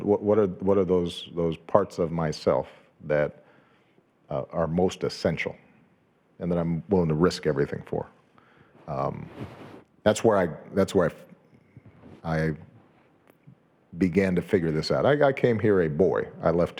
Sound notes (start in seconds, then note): none